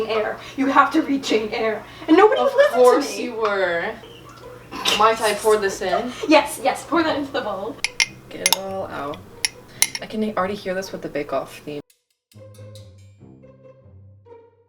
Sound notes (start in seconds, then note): 3.9 laughs